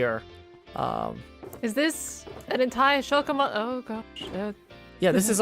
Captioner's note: shulkers opening and closing